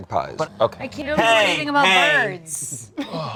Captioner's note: snores; sighs